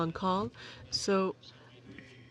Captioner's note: speaking French